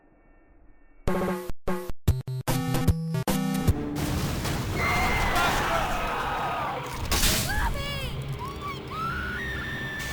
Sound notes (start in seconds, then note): 4.7 banshee scream